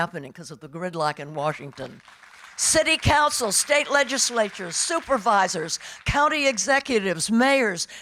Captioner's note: audience applauding